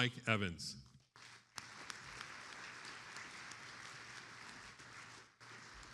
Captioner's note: attendees applauding